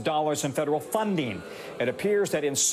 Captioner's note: studio audience booing